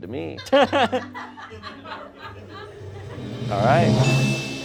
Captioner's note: crew laughs